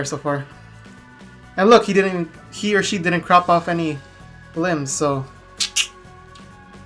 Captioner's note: tongue click